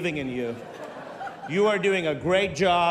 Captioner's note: laughter